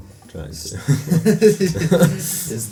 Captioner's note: laughter